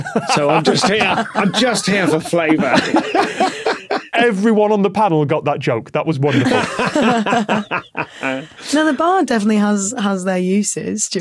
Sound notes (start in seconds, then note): 0.0 others laughing; 6.2 guests laughing